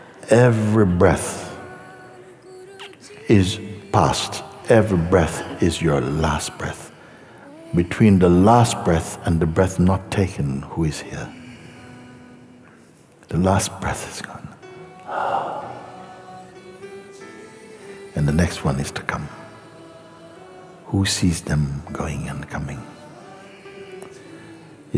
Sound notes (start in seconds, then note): 15.0 exhales